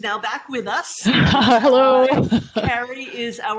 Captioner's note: chuckles